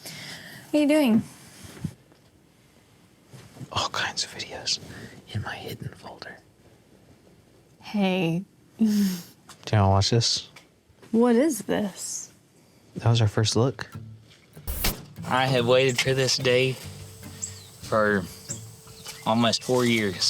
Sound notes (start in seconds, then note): 3.7 whispering